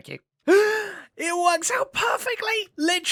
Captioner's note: gasps